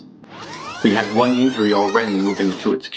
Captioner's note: recording squealing